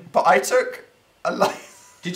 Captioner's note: laugh